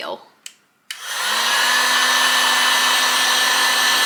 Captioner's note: heat gun makes loud noise again